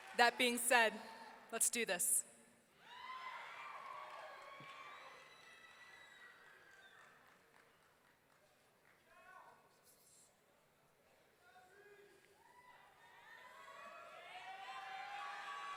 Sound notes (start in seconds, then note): 4.7 audience clapping and cheering